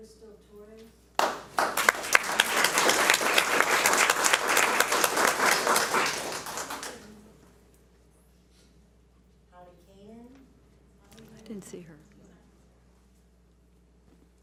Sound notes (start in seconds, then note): 1.2 audience applauds